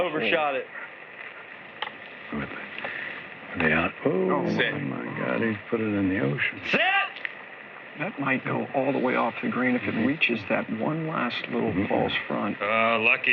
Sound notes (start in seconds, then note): none